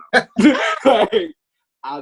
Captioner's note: both laughing